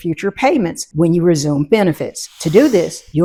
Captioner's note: air hissing